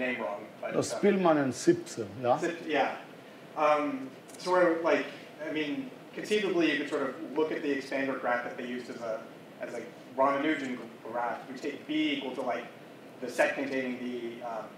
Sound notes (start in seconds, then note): none